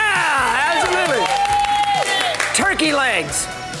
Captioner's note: crowd cheers